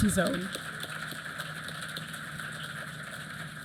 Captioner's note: applause